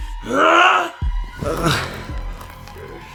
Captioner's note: groan